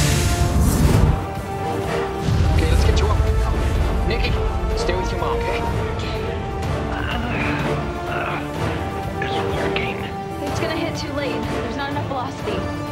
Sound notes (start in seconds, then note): 6.0 groans